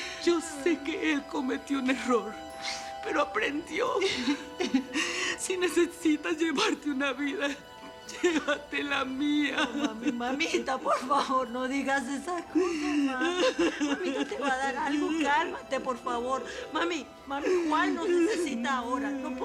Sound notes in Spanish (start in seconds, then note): 4.1 Sollozos; 13.3 Sollozos